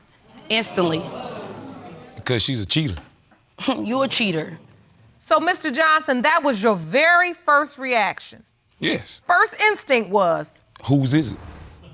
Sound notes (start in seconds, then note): 3.9 scoffs